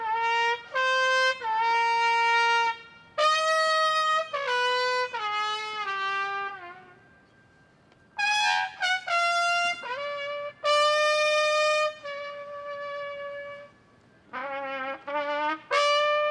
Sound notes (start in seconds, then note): none